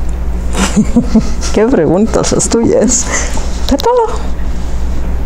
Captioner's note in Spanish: Se ríe